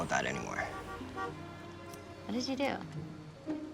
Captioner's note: horn honks